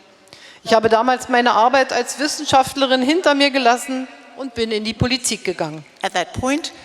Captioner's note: speaking in German